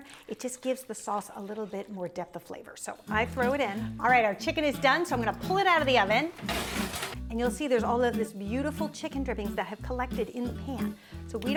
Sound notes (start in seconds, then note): 3.4 soft upbeat music; 5.8 pan scraping